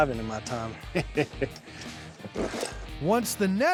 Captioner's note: chuckling